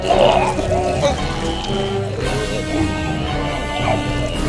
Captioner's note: alien retching